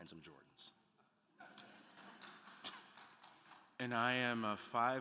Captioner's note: attendees laughing and applauding